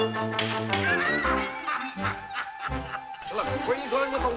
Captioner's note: Shemp laughing